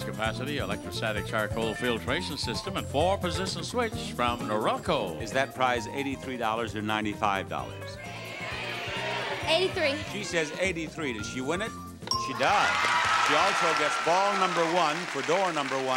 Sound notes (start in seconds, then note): 8.0 audience shouting; 12.1 bell dinging